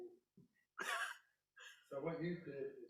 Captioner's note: laughs